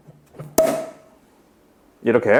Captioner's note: pop